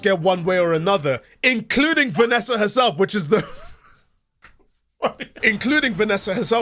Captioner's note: quiet laughing